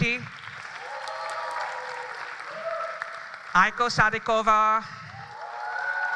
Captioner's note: applause